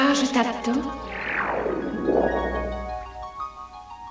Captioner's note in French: Bruit magique